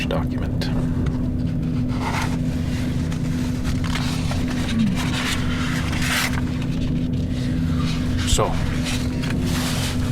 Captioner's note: paper rustling